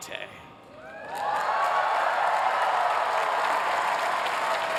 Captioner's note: applause